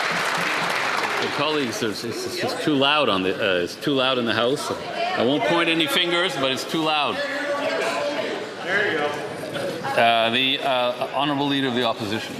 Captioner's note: some Applause